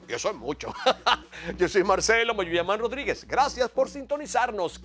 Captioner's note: laugh